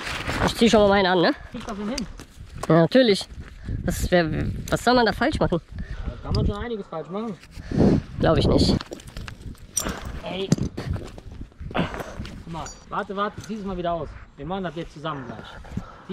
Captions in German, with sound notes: - Ich zieh schon mal Meinen an, ne? - Kriegst du das denn hin? - Ja natürlich. Was soll man da falsch machen? - Da kann man schon einiges falsch machen. - Glaub ich nicht. [SCHNAUFEN] - Ey... Hör mal.. Warte, Warte.. zieh das mal wieder aus. Wir machen das jetzt zusammen gleich.